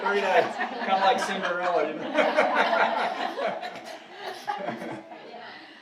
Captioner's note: audience laughing